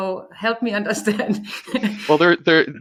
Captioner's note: laughing